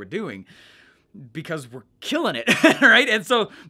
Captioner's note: laughs